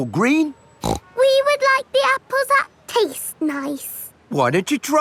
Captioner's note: snorts